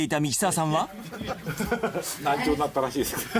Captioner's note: all chuckle